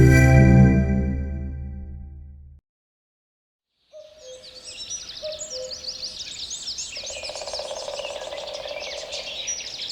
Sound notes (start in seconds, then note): 3.8 insects chirruping, birds calling; 6.9 woodpecker pecking